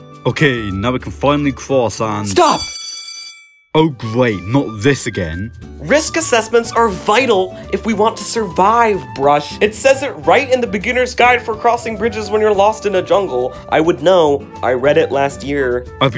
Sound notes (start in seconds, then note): 2.3 alarm clock ringing